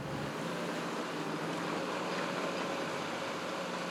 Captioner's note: bulldozer engine